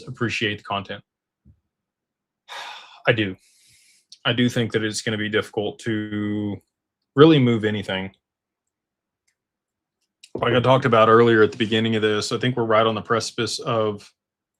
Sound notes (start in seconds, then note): none